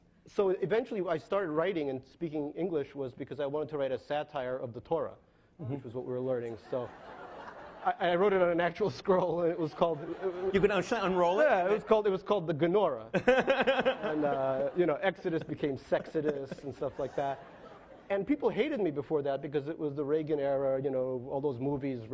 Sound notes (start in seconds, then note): 6.6 laughing; 10.7 speaks in foreign language; 15.9 laughing